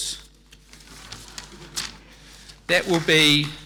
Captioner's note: audience tittering